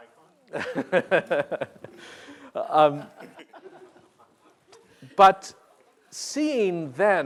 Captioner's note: laughter